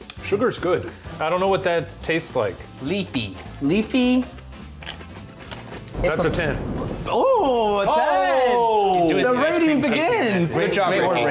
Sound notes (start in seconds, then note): 4.7 smacking lips